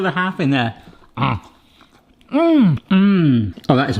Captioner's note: grunts